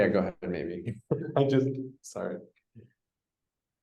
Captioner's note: laughs